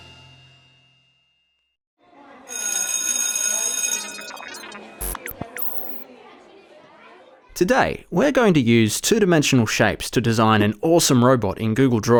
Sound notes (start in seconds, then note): 2.0 bell ringing over children chattering; 3.0 robotic beeping noises